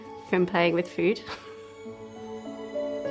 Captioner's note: chuckles; soft angelic music